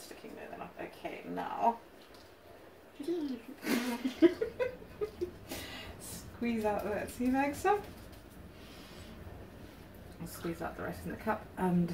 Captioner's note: giggles